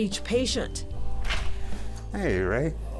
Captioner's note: door opens